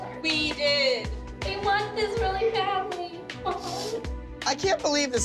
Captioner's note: sniffles